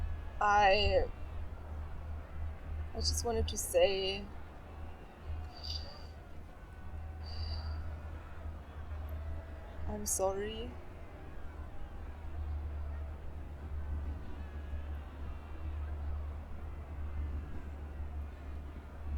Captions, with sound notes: I-- I just wanted to say-- [RESPIRING SHARPLY] I am sorry? [DISTANT CROWD CLAMORING]